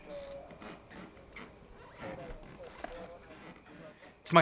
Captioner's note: door squeaking